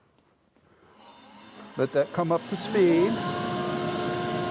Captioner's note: bandsaw roaring